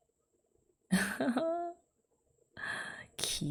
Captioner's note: laughs